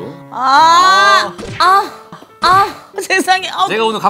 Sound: thud

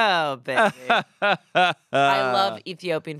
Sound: chuckles

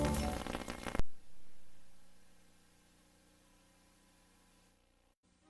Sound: vhs static

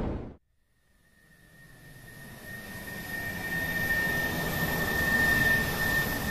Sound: rocket Flying

